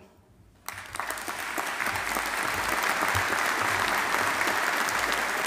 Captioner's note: audience applauding